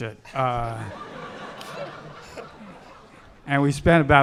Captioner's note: audience laughing